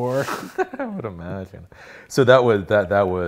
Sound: laughs

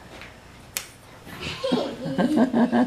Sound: laughing; slapping

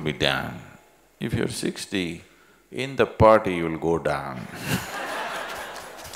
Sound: laughter

